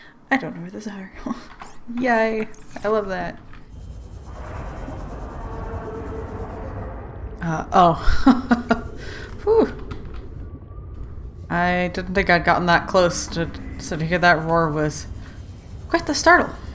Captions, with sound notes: I don't know where those are *laughs* yay! I love that! *roar* uh... oh *laughs and sigh of relief* I didn't think I'd gotten that close so to hear that roar was... quite the startle!